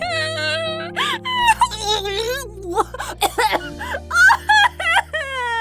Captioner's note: Tissues coughing